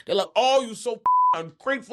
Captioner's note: beep